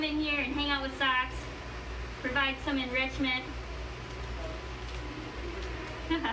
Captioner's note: laughs